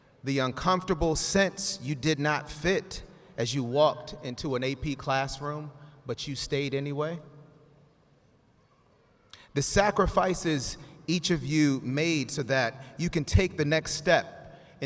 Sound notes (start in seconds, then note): none